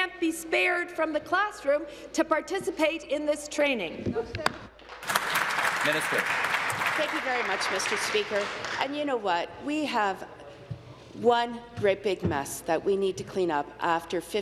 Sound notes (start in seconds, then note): 7.5 applause